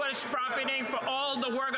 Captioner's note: some Applause